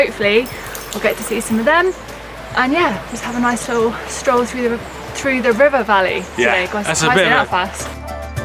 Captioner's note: stumbles over words